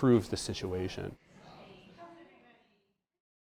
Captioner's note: people chatter